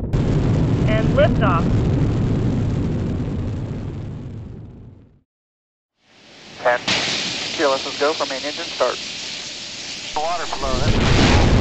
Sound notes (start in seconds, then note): 0.9 female voice